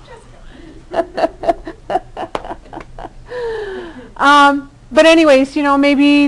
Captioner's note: all laughing